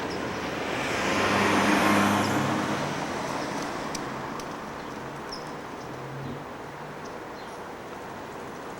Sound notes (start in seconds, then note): 0.4 car whooshing; 6.9 birds chirping